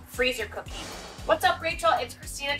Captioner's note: whooshing